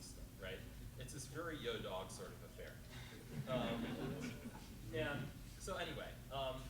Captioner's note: chuckles